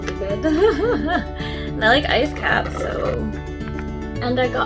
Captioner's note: laughs